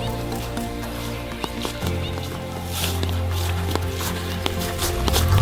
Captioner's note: grass crunching